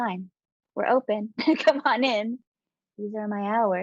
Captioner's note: chuckling